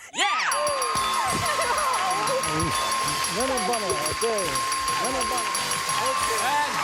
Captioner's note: dinging